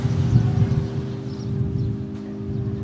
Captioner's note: birds chirping